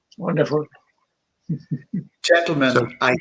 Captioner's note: happy chuckling